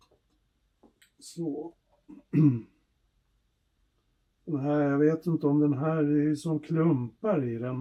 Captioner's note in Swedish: harklar sig